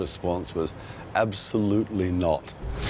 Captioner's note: car engine roaring